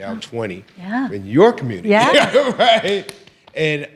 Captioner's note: laughs